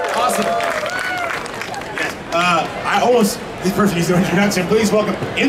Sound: audience cheering; audience chattering

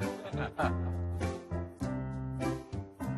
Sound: laughs

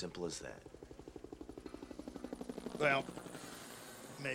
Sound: helicopter Motor Whirring

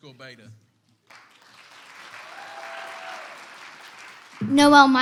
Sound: audience applauds; audience cheers

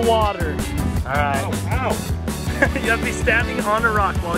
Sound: laughing

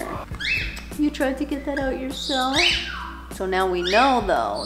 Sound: kisses

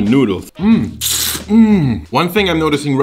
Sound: slurps

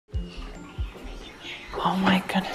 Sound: boys whisper

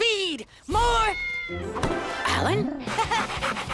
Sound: cat meowing

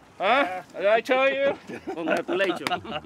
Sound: chuckling; patting back

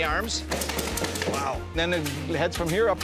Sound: staple guns clicking

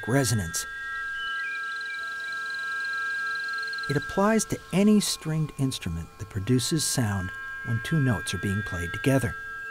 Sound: birds cawing

